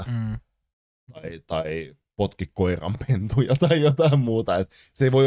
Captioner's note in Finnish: Naurahtaa